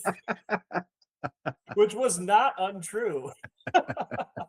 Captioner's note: laughing